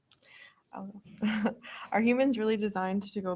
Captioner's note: chuckling